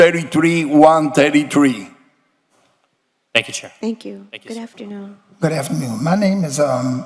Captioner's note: speaking non-english